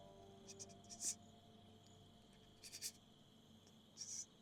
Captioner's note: man stuttering